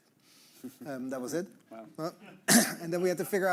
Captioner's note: all chuckling